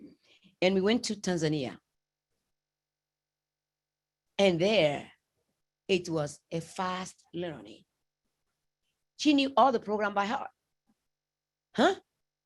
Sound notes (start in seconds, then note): none